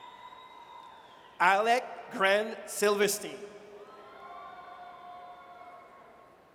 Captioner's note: audience cheers